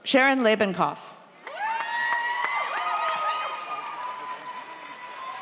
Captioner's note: audience cheers